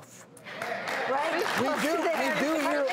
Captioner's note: audience cheers